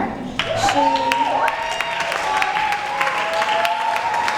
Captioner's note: applause